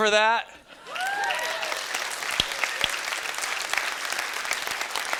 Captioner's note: students clapping